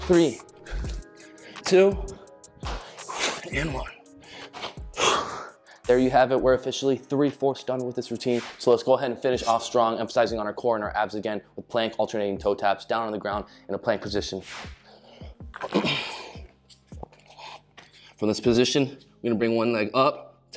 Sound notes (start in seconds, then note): 15.5 clears throat